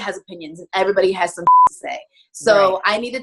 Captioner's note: beep